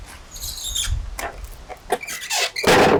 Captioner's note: slab squeaking; slab thuds